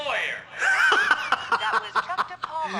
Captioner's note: laughs